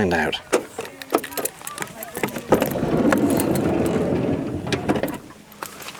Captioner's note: sound of door unlocking and opening